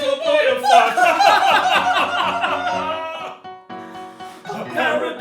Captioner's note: laughter